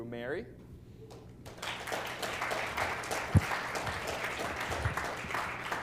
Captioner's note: applause